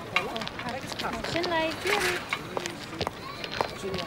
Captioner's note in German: Stimmengewirr